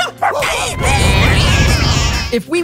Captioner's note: screaming